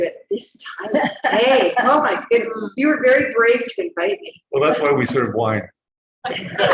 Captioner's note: laughter